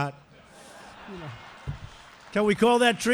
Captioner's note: laughter